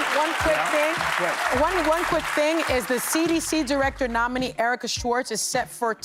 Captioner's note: cheers and applause